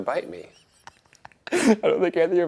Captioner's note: Ryan laughs